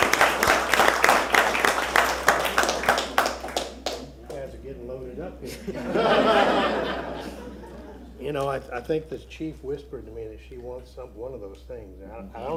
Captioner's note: applause